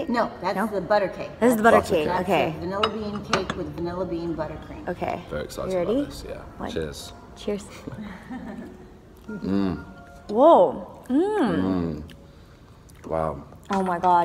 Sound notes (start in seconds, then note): 7.9 woman laughs